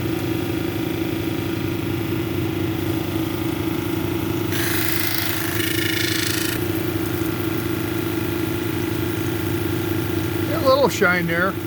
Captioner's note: polishing noise